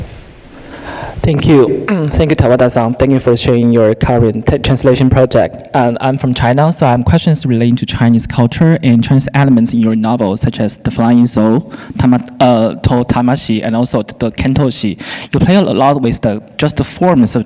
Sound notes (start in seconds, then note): 2.4 speaking in foreign language; 12.1 speaker speaking in foreign language; 14.0 speaking in foreign language